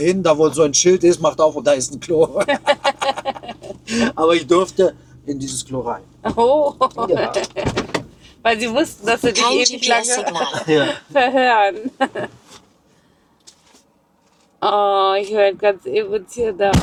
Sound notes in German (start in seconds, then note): 2.2 gelächter; 10.2 gelächter